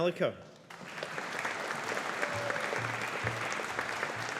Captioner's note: audience applauding